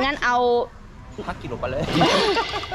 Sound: laughing

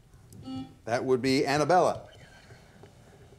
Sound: buzzer beeps once

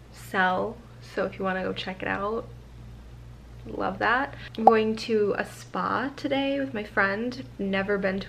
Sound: pop

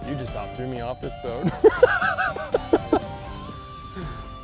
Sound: laughs

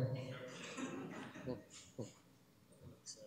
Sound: laughter

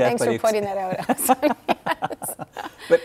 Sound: laughing

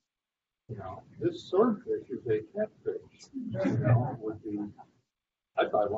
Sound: laughter

